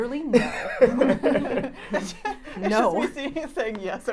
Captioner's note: laughs